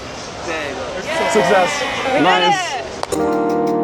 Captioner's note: cheering; lofi music